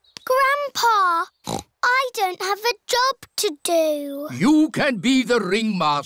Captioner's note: snorts